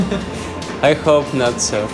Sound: laughs

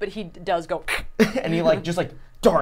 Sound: imitating cat hissing

